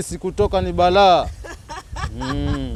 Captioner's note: laughter